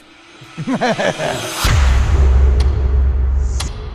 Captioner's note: laughs